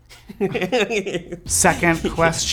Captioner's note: laughs